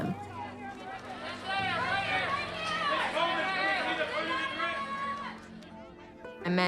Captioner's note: overlapping shouts